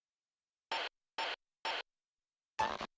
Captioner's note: radio buzzing